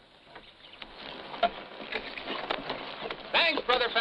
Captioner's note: birds chirping